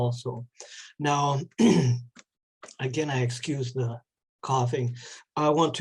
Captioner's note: clears throat